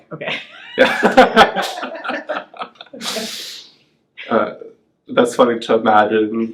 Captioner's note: laughing